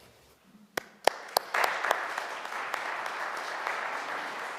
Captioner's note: audience applauding